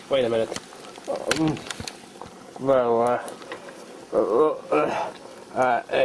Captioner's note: struggling sounds; coughing sounds